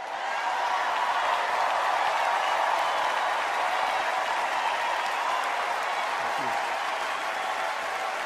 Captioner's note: cheers and applause